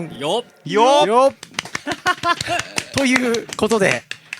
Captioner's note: applause